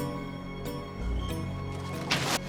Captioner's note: woosh